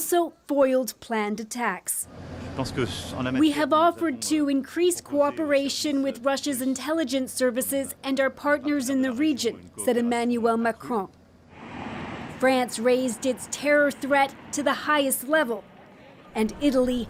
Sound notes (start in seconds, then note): 6.5 speaking French